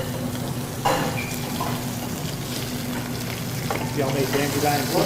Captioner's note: sizzling